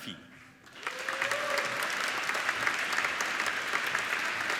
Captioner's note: applauding